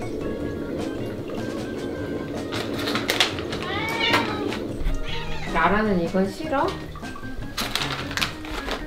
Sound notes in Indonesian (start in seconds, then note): 2.4 suara bungkus makanan